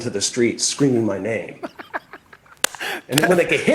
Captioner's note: laughs